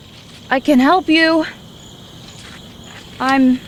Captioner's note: crickets chirping